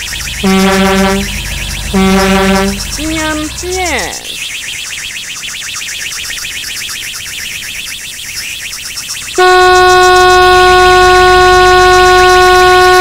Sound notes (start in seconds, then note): 0.0 honk honk; 4.6 rocket engine